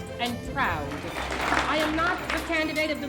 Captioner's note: applause